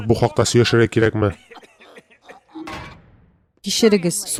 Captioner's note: both cough; manhole slams